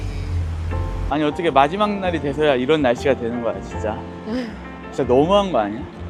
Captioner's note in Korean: 한숨